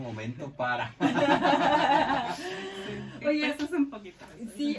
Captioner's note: laughs